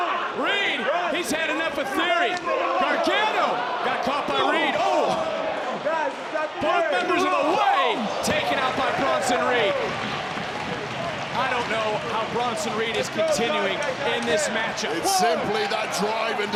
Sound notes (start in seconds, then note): 5.7 people chattering indistinctly